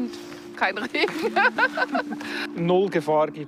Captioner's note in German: Sie lacht